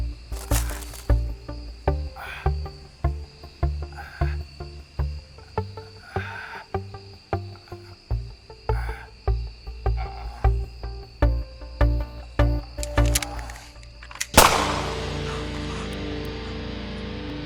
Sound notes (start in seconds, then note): 1.9 Alvin breathing shallowly; 14.2 energetic music; 14.3 gunshot